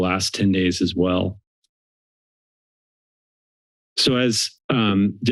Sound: silence

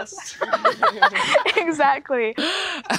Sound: all laughing

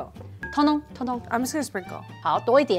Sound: speaking in mandarin

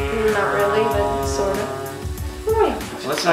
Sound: airplane noises

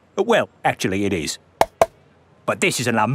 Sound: taps

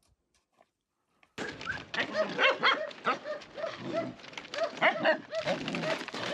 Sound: dogs barking

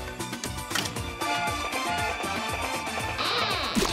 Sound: train horn blowing

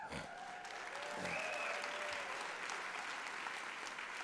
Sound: applause

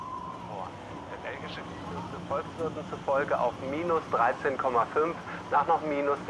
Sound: TV announcer speaking foreign language

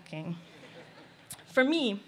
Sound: laughter

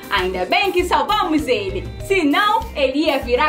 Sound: none

